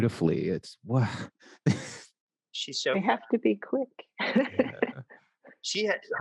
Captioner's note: laughs